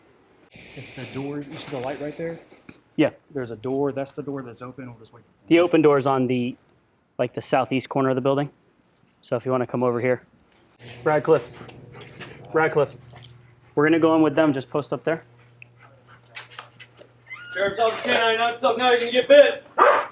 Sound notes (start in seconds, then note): 17.2 door opening; 19.7 barking